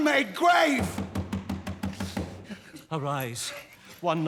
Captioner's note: knocking